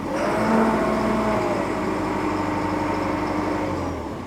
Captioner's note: engine revving